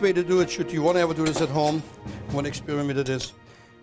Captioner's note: none